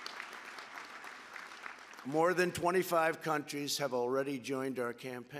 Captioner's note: applause